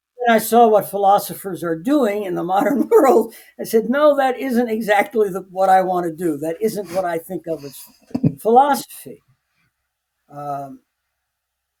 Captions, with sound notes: I saw what philosophers are doing in the modern world. I said, "No, that isn't exactly what I want to do. (both laughing) That isn't what I think of as philosophy."